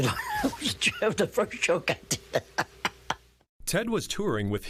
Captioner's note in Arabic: يضحك